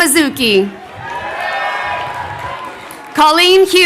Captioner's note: crowd cheering